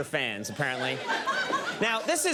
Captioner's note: crowd laughs